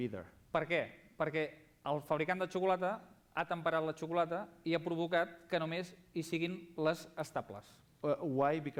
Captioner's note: non-english speech